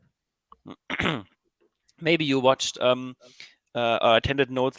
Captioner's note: clears throat